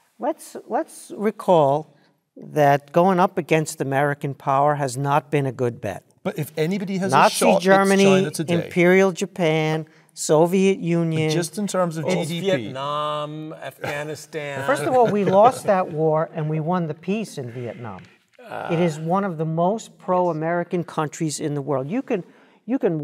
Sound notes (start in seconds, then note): 13.6 laugh